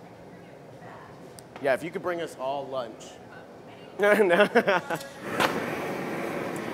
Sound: laughter

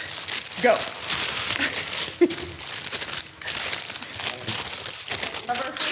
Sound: candies' wrappers scuffle

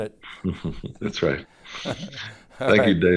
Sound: chuckles

